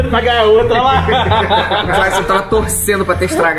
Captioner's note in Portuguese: risadas